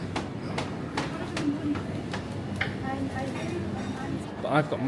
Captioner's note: crowd chattering